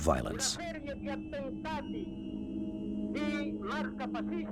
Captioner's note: Italian spoken audio